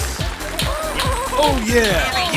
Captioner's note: applause